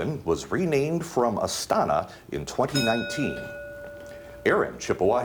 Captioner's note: bell dings